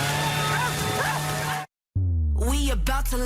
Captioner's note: leaf blower revving up